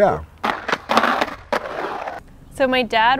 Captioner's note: skateboarding noises